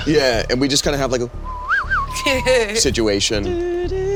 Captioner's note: whistles